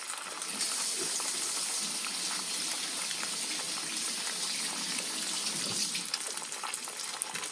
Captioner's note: sizzling; sink running water; sizzling